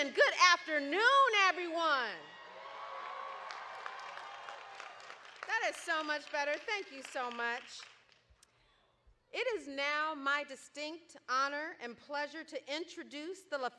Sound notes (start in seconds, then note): 2.1 crowd cheering